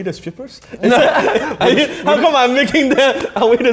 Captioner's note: both laugh